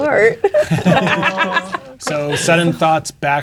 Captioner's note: players laughing